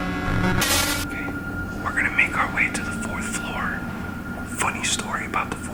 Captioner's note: whispers